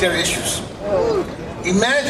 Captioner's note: crowd groans